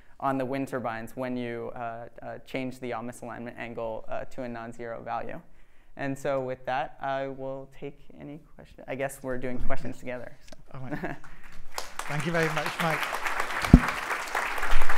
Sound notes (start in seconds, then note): 11.2 applause